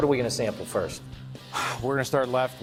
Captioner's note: blows out breath